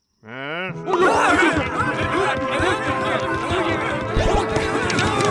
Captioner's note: excited chatter